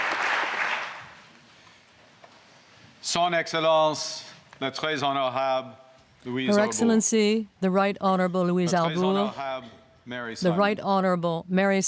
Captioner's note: applause